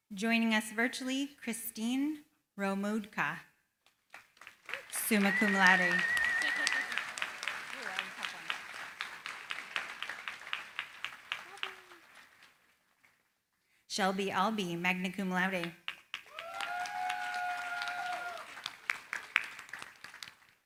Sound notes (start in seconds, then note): 5.8 applause; 16.1 cheering, applause